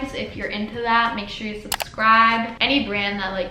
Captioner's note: clicking sound